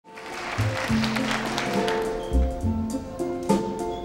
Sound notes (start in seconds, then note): 0.0 audience applauds; 0.4 tender music